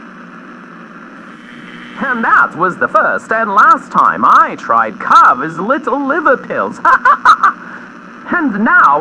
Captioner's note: Alastor on radio